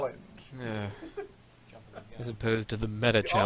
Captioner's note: groans